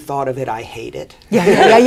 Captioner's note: laughter